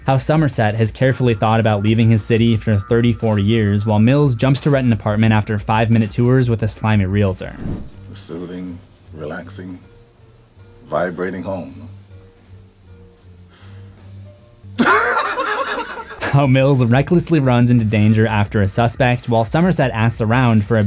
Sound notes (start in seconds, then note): 14.8 laughter